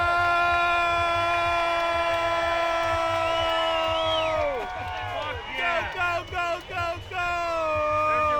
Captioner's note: applause